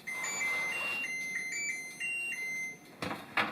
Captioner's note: overly dramatic oven chimes